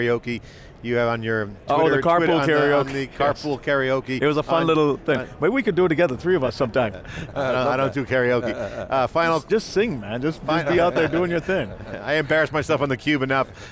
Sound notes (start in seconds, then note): 6.8 laughs